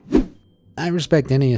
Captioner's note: image whooshing